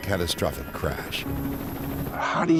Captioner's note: airplane engine roaring; gentle music